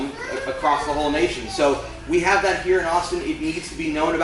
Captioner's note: none